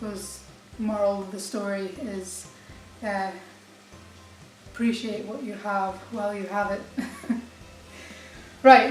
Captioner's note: laughs